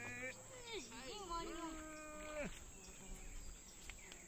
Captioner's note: child speaking Yanomami